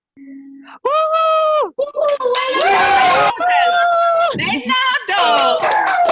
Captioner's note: cheering